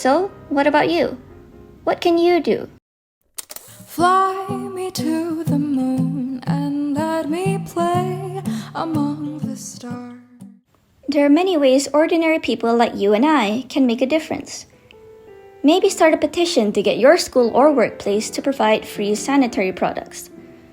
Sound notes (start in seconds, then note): 3.3 record click